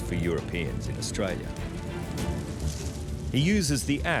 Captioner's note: timber scorching